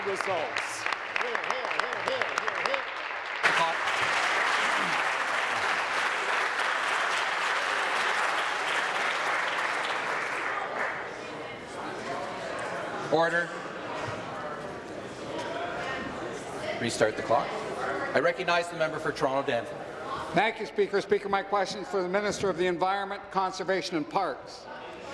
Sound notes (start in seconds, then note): 5.4 applause